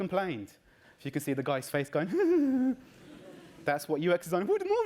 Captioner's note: giggling